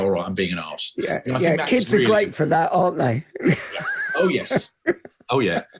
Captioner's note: laughs